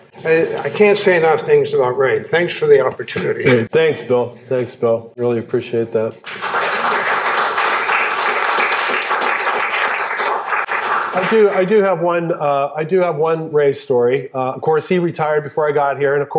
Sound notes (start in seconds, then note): 10.4 applause